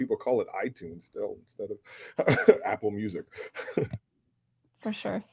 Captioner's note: laughs